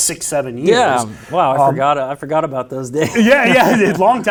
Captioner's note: laughs